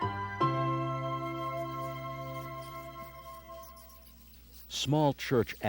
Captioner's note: bats chittering